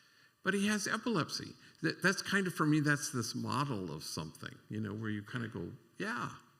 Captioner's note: none